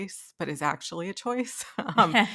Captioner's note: laughing